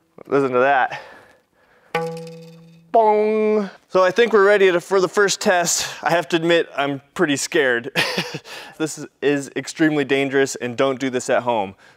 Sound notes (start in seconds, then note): 1.9 pluck sound